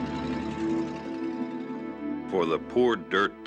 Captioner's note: truck engine revving